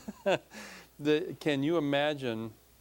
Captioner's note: laughing